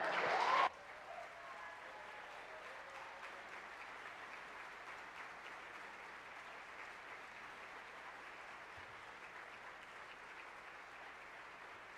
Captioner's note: cheers and applause